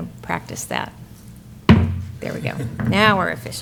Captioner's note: gavel banging